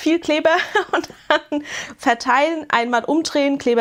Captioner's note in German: gelächter